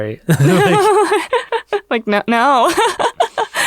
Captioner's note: laughs